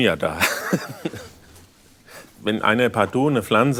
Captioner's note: laughs